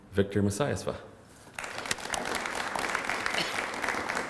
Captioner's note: applause